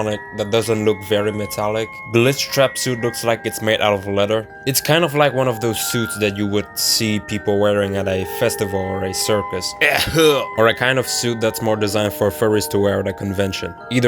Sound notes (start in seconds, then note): 9.8 violent coughing